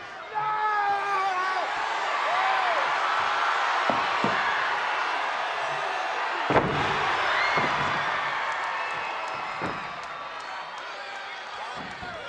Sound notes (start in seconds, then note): 0.0 wrestler yells; 1.8 crowd cheering; 6.4 knees thud; 9.6 crowd yelling